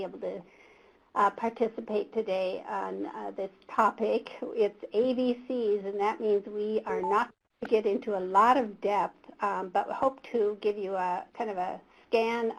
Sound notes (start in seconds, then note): 6.9 beep